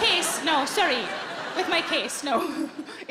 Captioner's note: audience laughing